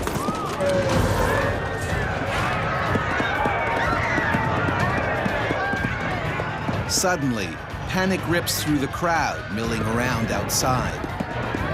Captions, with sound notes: (crowd yelling) - [Voiceover] Suddenly, panic rips through the crowd milling around outside.